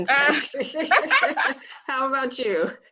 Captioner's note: laughs